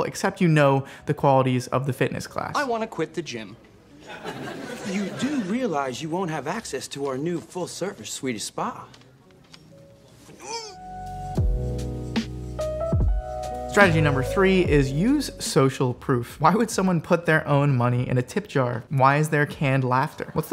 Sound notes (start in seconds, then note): 10.4 man groans; 10.5 groovy music